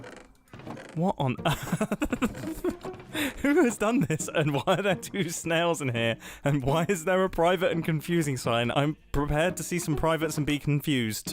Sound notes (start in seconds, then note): 1.2 laughs